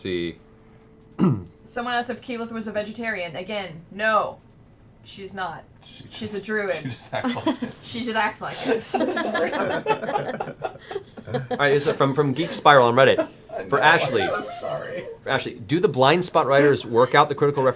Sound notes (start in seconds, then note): 8.4 laughter